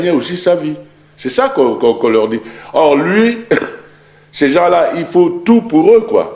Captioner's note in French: raclement de gorge